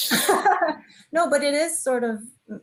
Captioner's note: chuckling